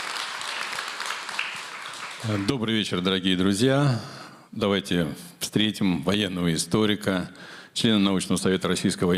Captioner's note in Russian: аплодисменты